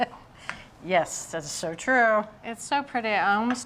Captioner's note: chuckles